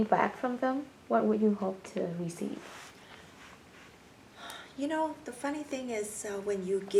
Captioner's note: sighs